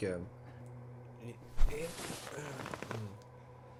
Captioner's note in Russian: звуки доставания сумки